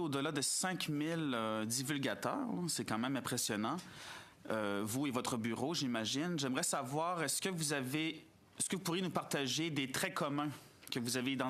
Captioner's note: speaking in French